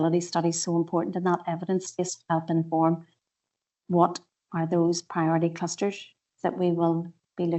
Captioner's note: audio distorts 58.17